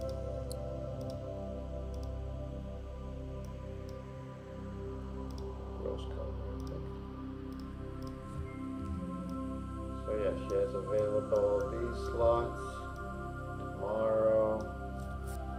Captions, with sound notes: (gentle music continues) (mouse clicking) So yeah, she has available with all of these slots tomorrow.